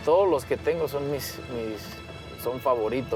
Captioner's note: speaking Spanish